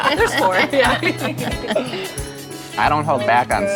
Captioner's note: both laughing